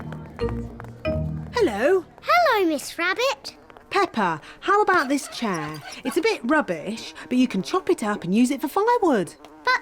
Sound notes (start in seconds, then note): 4.9 flies buzzing